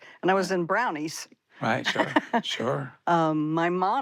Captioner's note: she laughs